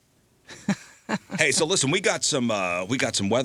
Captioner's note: laughing